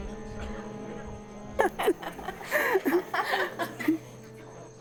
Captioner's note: laughter